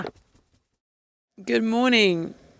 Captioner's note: person kissing